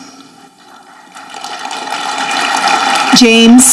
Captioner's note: audience clapping